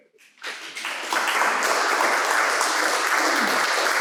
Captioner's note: applause